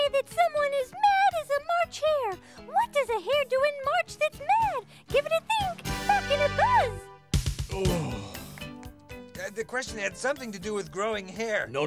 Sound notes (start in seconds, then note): 7.7 groans